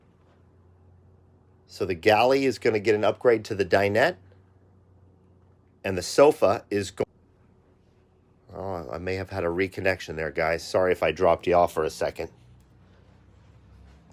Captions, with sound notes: So the galley is going to get an upgrade to the dinette. And the sofa- (audio cuts out) Oh I may have had a reconnection there guys. Sorry if I dropped you off for a second.